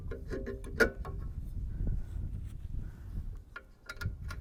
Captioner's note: metal clanks